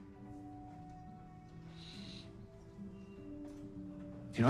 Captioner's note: sniffing